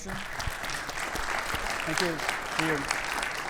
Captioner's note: audience clapping